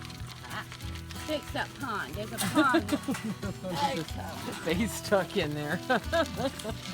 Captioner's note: chatter